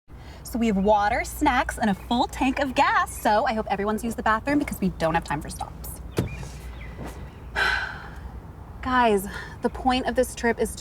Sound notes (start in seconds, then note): 7.5 exhales